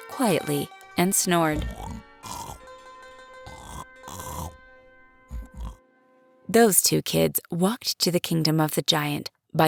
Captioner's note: snoring